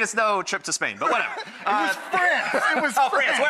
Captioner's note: laughs